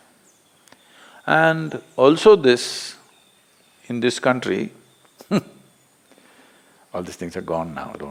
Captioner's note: laughs